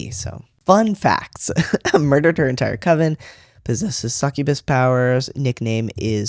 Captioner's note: laugh